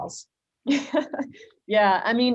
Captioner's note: chuckles